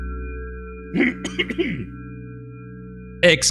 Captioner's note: clears throat